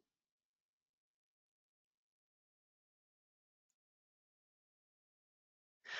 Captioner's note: 5 seconds pause